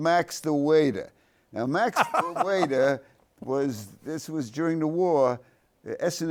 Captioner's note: laughs